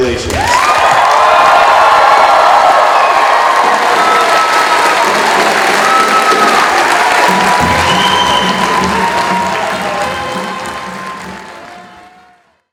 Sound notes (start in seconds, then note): 0.2 cheering